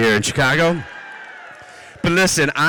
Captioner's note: audience cheers